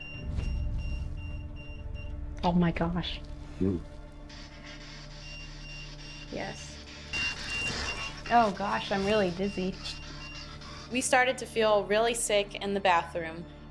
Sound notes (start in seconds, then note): 0.0 EMF beeping; 4.4 spirit box scanning; 8.8 EMF beeping